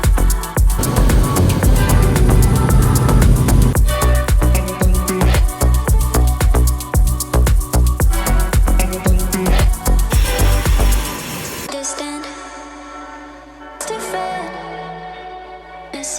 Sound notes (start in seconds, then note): 10.4 engine whining